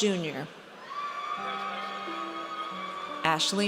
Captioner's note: audience cheers